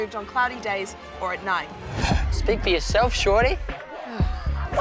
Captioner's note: sighs